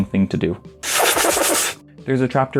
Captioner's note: violent, regrettable suckling